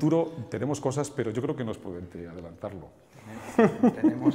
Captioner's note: laughs